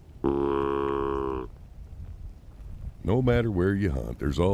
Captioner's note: deer call honking